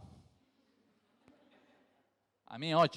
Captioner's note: crowd laughs